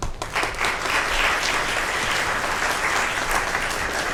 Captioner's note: audience applauds